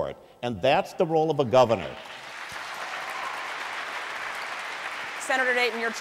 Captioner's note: applause, cheers